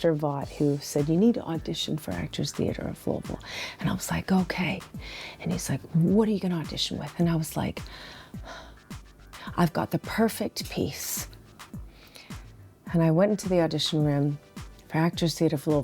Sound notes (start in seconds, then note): 7.8 sighs